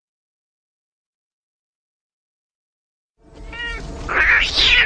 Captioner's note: cat screeching; cats meowing